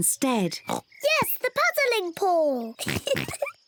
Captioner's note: oinks; giggles